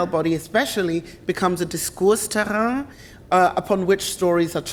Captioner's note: speaks German